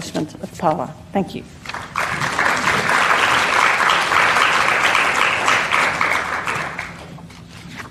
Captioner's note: applause